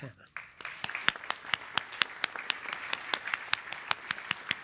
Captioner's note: applause